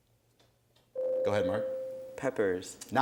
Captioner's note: ding